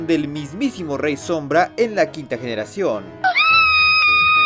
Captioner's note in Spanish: Gritos